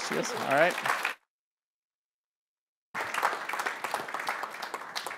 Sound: applause

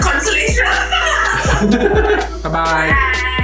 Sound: laughs

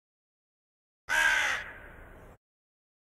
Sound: sound of raven or crow

